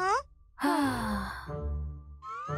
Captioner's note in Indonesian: mengembuskan napas